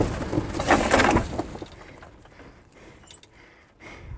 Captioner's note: aircraft clicks